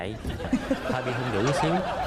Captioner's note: laughs